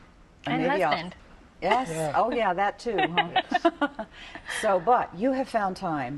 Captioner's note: laughter